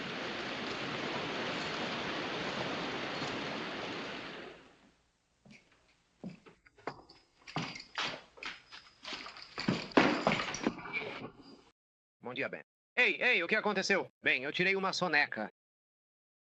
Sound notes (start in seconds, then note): 13.2 deputy stammers